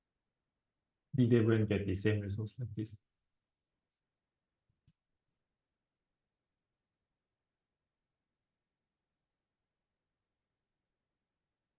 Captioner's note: no speech